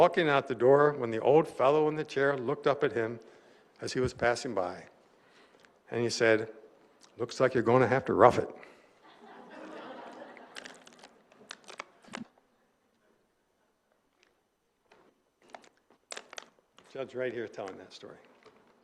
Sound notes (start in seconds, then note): 9.0 laughter